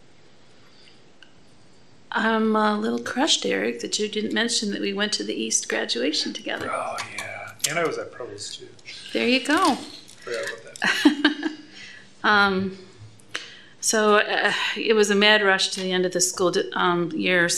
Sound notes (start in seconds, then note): 10.8 laughter